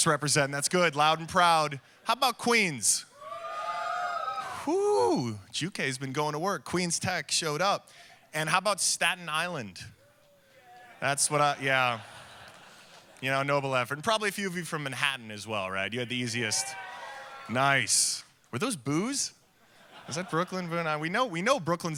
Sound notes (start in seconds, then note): 3.1 audience cheering; 10.2 murmuring audience; 16.4 audience cheering